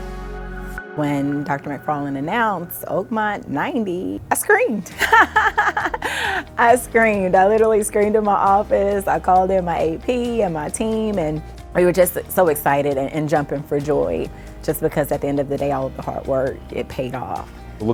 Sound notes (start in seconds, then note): 4.9 chuckles